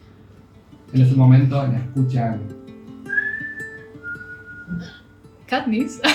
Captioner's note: whistle